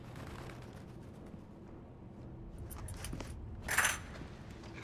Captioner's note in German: handschellen scheppern